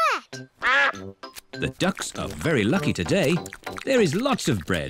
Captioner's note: quacks